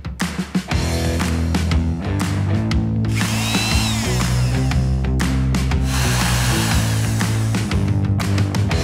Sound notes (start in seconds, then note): 3.1 saw revving